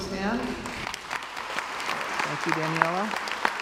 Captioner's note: crowd applauds